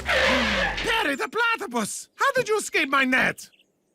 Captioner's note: gasps